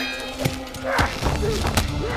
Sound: ropes creaking

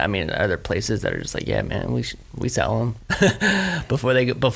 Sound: laughs

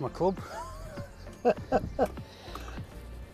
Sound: chuckles

